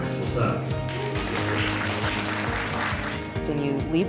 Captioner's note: applause